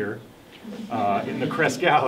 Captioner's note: audience laughing